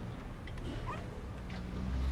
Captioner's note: faint dog bark